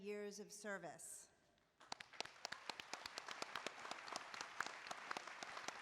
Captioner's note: applause